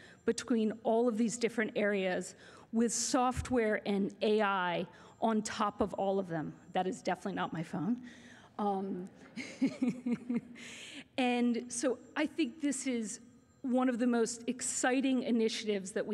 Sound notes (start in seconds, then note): 9.3 laughter